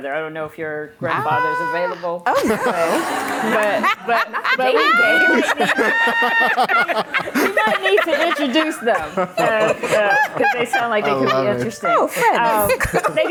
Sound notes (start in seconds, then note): 2.9 laughter